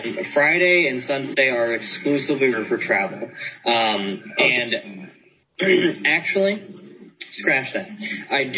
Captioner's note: clears throat